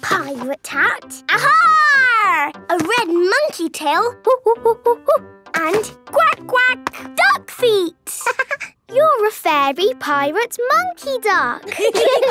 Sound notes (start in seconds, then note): 4.8 monkey sounds; 8.3 quacking; 8.5 laughing